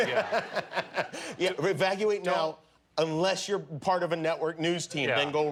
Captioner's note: laughter